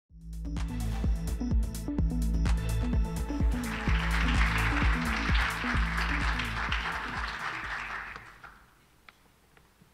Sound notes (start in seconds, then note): 0.1 upbeat ambient music; 3.2 crowd applauding